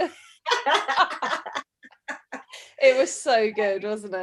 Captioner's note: laughs